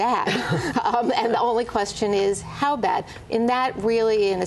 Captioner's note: laughter